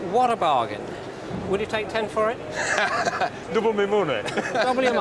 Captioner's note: laughs